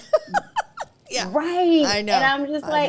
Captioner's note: laughs